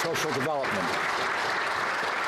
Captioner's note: some Applause